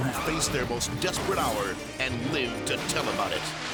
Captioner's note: people screaming; car skidding